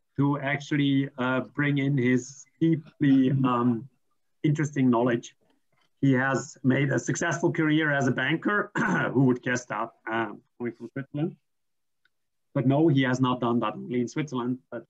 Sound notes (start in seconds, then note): 8.7 clears throat